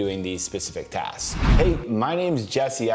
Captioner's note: wind whooshing